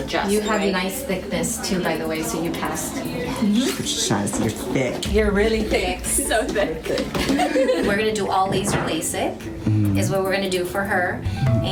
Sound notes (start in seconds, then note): 6.2 laughs